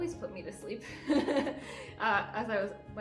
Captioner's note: giggling